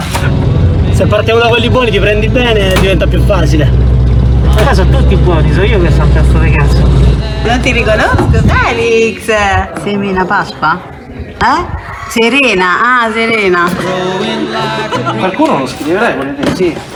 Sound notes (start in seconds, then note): 14.1 laughter